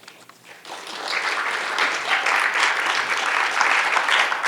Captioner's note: audience applauding